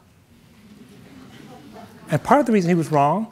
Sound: audience murmuring

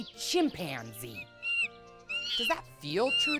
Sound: chimpanzee calls

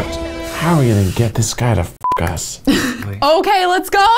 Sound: beep

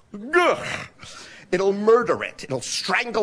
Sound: grunts

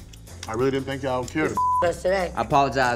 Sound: beep

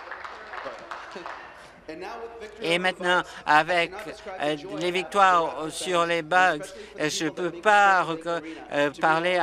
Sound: some Applause

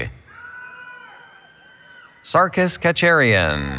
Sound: cheering

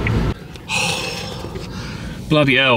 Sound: sighs

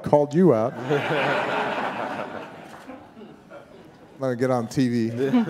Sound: audience laughing

